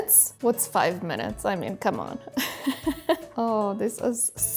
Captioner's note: chuckles